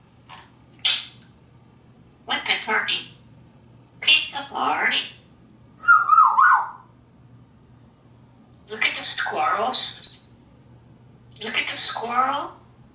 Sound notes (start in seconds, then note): 5.8 whistling